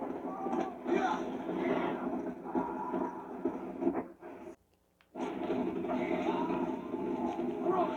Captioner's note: screams of zombies and galloping horse